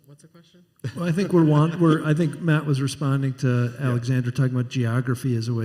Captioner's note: laughter